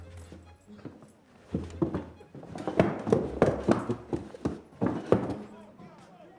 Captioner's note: Zeke scooting chair